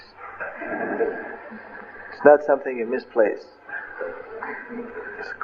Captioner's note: laughter